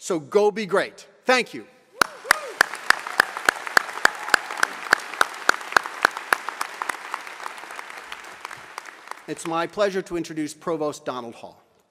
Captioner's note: applause